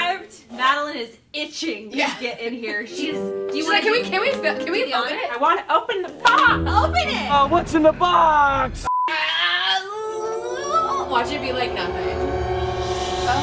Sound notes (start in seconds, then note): 9.5 excited, nervous noises; 10.0 tense music